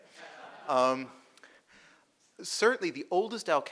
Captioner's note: audience laughing